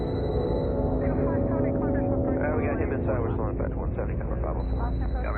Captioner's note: chatter of multiple traffic controllers